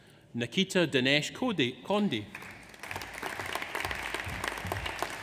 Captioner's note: audience applauds